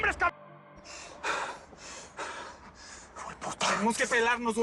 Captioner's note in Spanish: Respiración agitada